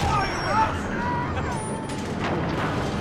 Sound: laugh

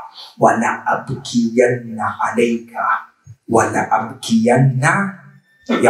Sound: Arabic

